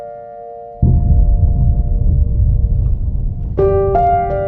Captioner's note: boom